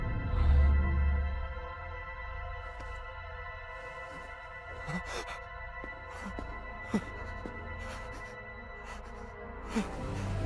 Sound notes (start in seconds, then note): 3.5 breathing heavily; 4.8 gasps